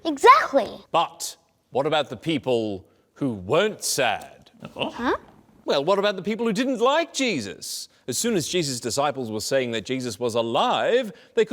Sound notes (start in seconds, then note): none